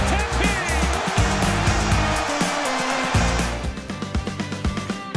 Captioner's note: fans cheering; bright music